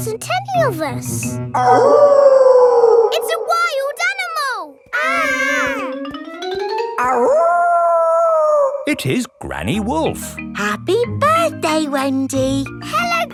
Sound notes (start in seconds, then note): 1.6 wolf howling loudly; 4.8 kids yelling; 7.0 howling